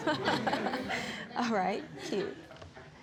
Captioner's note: judge faith laughing